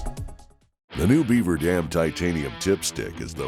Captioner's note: voiceover